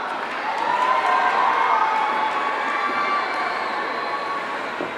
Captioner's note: audience cheering